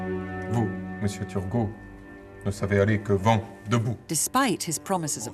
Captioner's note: Louis XVI speaking in French